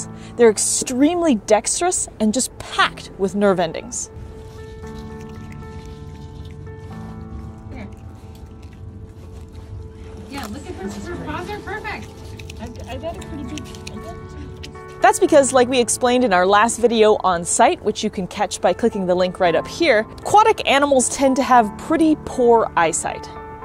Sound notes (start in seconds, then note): 4.4 background music; 4.4 quiet munching noise